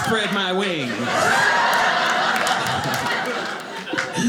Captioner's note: audience laughing